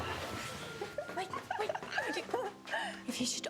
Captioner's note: giggling